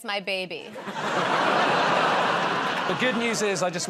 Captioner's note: laughter